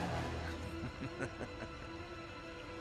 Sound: laughs

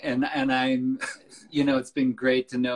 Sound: laughs

